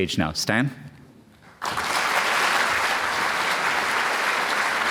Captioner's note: applause